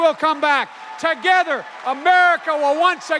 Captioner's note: cheers and applause